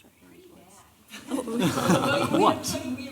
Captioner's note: laughter